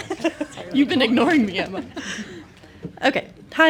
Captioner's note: laughs